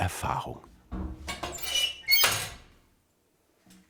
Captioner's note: squeaking